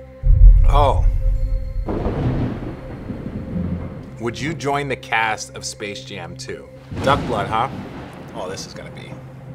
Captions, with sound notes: (thunder) would join the cast of Space Jam Two? Duck blood huh? Oh this is gonna be,